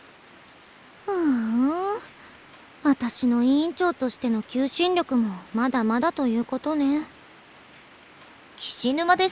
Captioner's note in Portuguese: suspiro